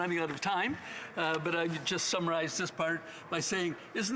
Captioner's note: none